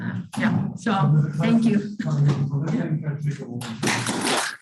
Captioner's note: applause